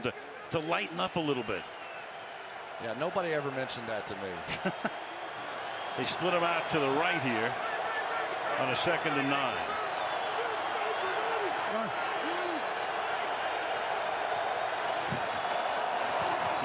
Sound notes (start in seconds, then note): 4.4 chuckles